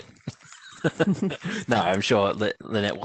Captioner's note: laughter